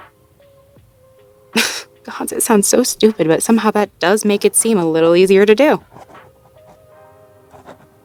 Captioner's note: writing sounds